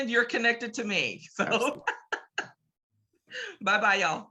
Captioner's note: laughs